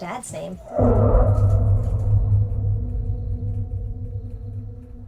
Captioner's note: spooky sound